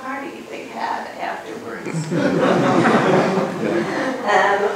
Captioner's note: laughter